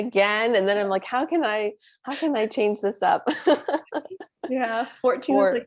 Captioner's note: laughs